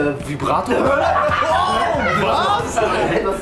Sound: lachen

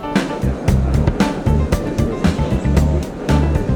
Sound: crowd noise

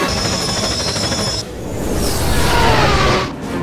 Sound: x-wing & tie fighter screech; intense wheel-slip

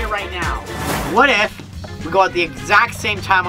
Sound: air whooshing

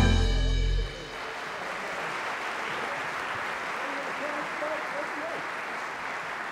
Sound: applause

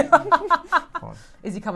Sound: laughing

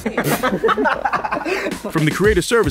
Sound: laughing

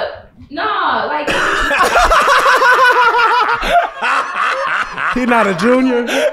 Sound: everyone laughs

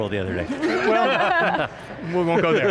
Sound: all laughing

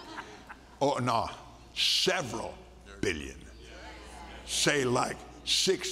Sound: laughter

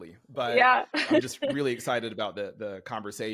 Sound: laughs

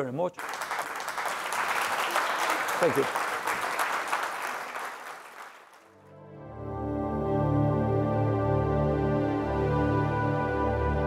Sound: applause

